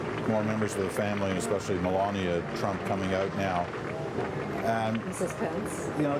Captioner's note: applause